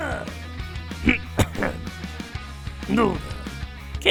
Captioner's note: coughs